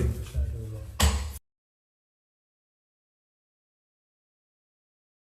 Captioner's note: gavel bangs loudly